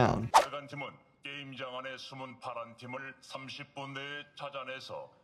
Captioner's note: speaking foreign language